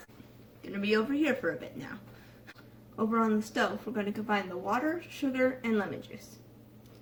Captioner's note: none